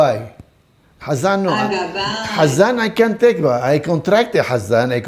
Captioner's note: Hebrew